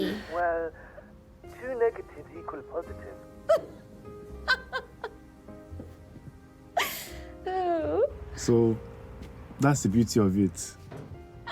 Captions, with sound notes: - Well two negatives equal a positive. (Diana laughing) So that's the beauty of it.